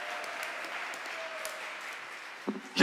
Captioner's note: applause